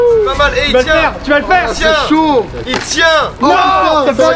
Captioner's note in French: brouhaha